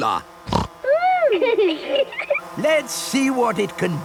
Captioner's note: snorting; laughter